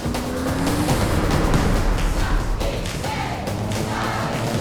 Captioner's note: car engine roaring